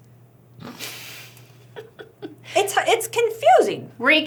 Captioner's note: giggling